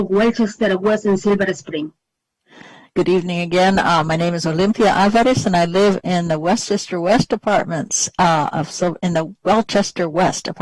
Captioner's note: speaking spanish